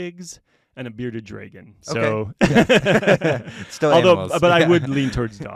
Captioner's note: laughter